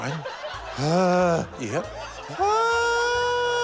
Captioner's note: groans